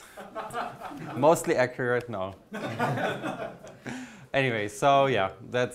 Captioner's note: audience laughs